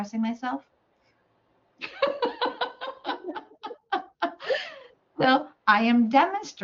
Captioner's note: laughs